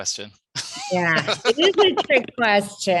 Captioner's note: laughing